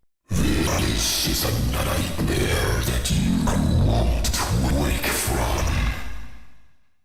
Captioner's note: deep, Glitching Voice